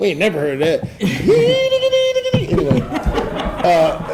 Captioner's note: Jamie vocalizing; audience laughing